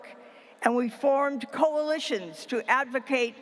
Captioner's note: none